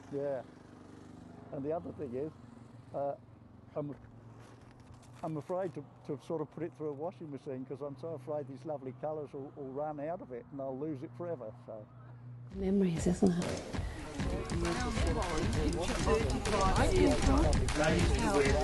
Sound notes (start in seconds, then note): 15.0 group chatter